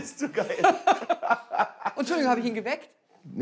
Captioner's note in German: Lachen